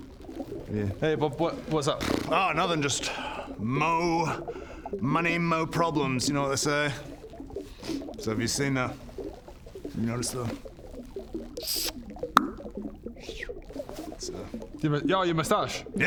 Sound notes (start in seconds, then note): 11.6 kiss; 12.2 pop; 13.0 moustache growing noise